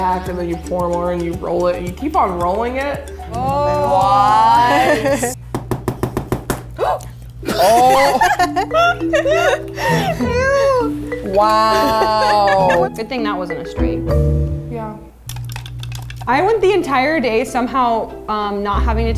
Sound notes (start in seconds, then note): 5.6 table banging; 6.9 egg breaking